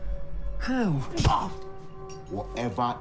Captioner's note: punch thuds